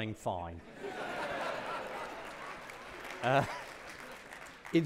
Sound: audience laughing

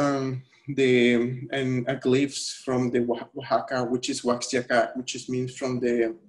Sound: speaking spanish

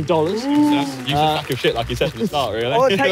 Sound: crowd clapping

